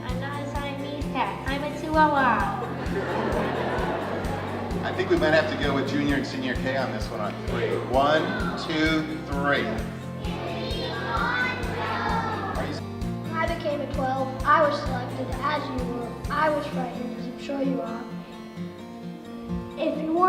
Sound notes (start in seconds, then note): 2.6 crowd laughs; 10.1 crowd replies